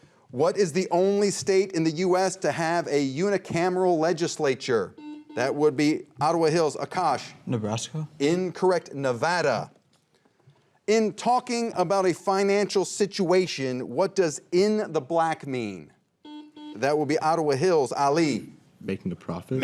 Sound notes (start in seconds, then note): 4.9 buzzer rings; 16.2 buzzer rings